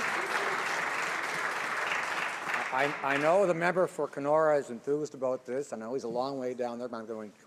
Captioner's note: some Applause